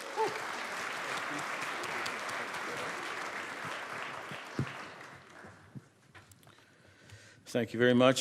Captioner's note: applause